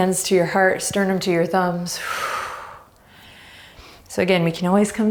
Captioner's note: deep breaths